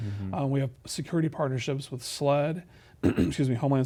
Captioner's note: clears throat